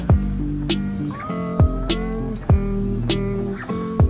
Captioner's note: OFFSCREEN: Awwww!